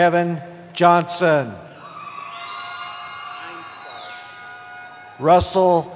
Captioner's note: cheering